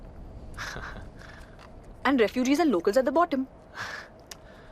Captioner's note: chuckles